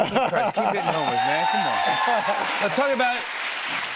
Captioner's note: cheers and applause